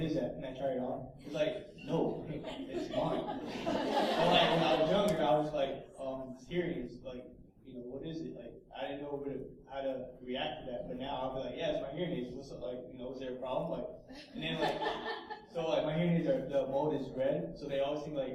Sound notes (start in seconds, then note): 3.5 laughs